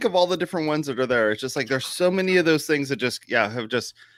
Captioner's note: whispers